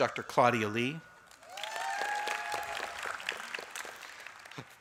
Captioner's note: applause